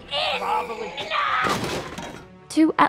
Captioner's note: screams